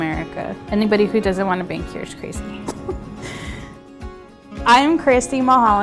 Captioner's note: chuckles